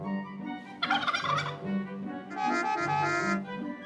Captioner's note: turkey gobbling; traffic honking